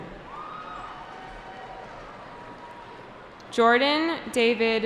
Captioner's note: cheering